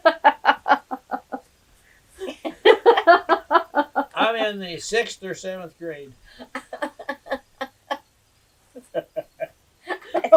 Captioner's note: laughter